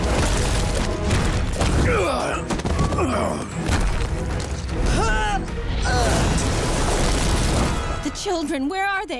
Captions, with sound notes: [groaning] [grunting] The children, where are they?